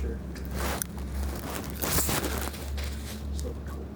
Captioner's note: camera rustling